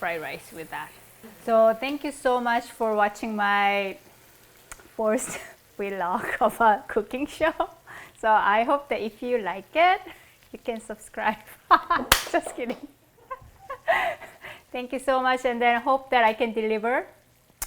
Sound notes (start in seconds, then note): 13.2 laughs